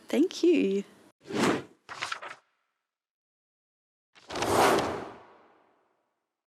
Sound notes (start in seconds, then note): 1.5 logo whooshes; 1.9 paper rustling; 4.3 logo whooshes